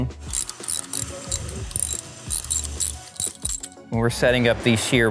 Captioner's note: ratchet clicks